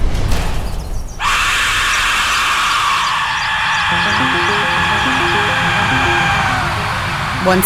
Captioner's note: whistle shrieks